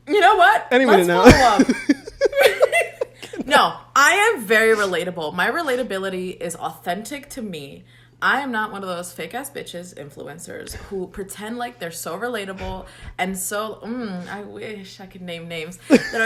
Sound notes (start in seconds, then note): 1.0 both laugh